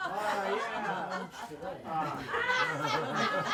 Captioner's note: group laughs